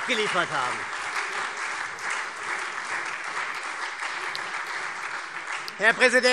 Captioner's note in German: Beifall SPD und Freie Demokraten